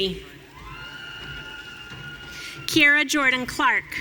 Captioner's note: audience cheering